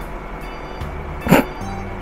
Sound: laughs

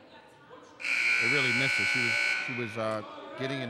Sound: buzzer dings

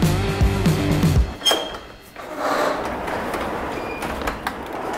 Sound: door opening

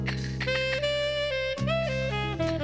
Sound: rattling

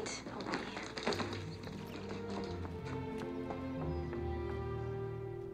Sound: water dripping

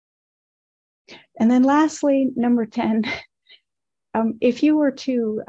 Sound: laughs sadly

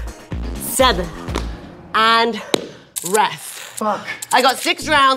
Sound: slapping

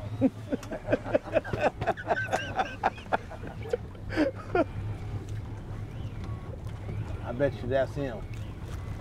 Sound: laughing

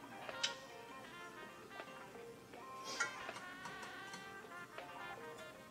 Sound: rhythmic music; lips smacking

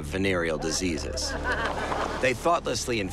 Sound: laughing

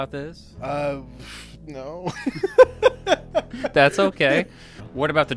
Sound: laughs

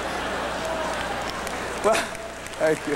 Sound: applause

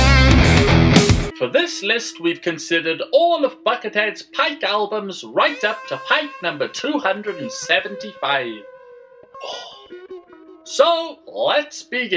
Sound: sigh

